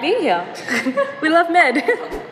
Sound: chuckles; laughing

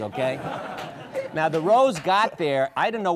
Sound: audience laughs

